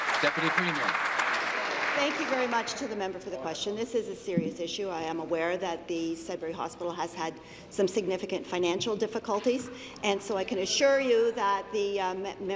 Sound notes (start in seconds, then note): 0.0 applause